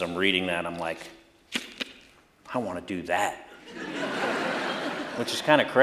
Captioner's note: laughter